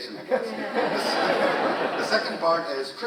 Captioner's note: audience laughs